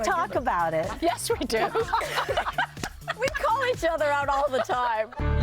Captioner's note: laughter